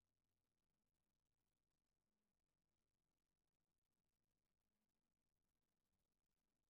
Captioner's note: none